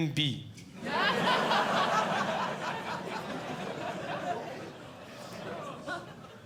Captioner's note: audience Laughing